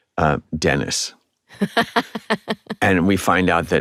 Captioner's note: laughs